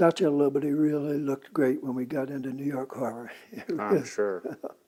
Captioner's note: laughs